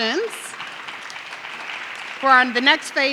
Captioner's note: audience clapping